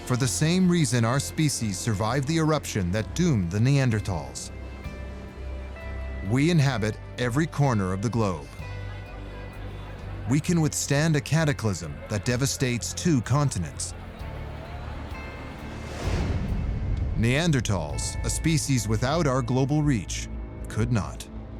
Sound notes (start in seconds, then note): 4.3 inspiring music; 13.8 indistinct chatter and traffic